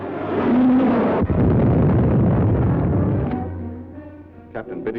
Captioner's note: loud explosion